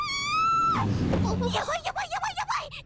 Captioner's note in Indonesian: berteriak